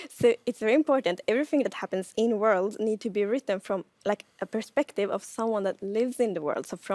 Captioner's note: none